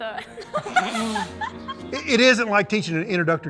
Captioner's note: laughing